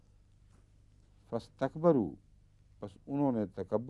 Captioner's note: Arabic